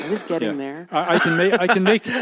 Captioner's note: laughs